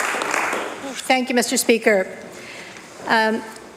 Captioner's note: applause